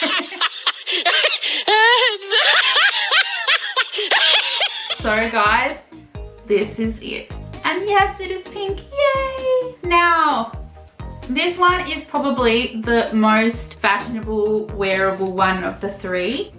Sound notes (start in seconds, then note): 3.6 uncontrollable laughter at oneself through spirit Lion